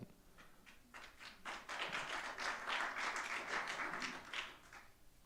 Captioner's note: audience clapping